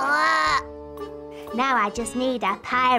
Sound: mimics parrot

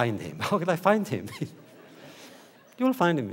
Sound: laughter

